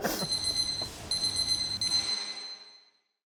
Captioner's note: everyone laughs; bell rings